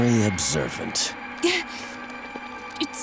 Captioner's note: groaning